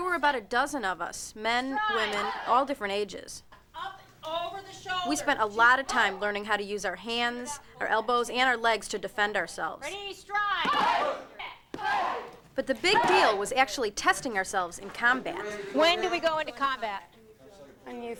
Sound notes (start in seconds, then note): 10.1 shouting